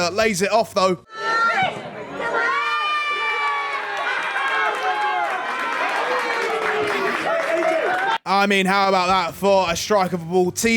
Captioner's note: applause